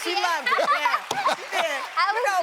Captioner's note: laughing